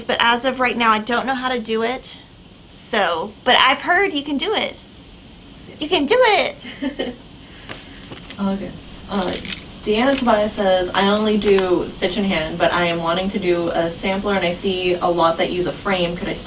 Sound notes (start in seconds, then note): 6.6 chuckles